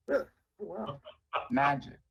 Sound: laughter

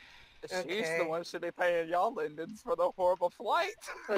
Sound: while yawning

